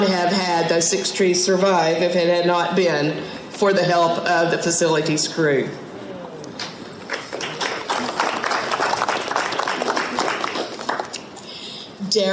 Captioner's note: audience clapping